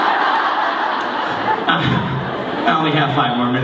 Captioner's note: laughter